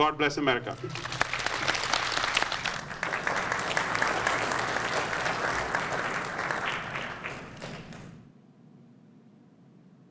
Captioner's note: applause